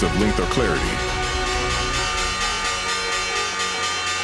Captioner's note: bells chiming